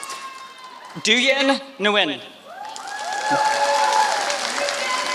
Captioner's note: applause